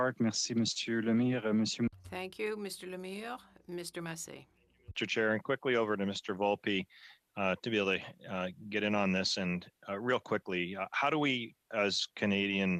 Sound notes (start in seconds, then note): 6.6 speaking French